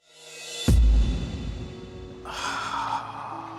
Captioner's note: sigh